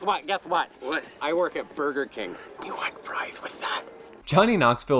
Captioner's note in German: flüstert